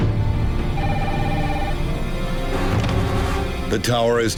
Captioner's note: phone ringing